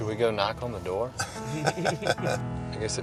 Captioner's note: laughing